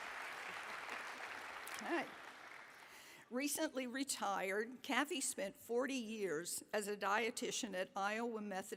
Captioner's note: applause